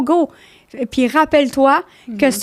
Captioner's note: in french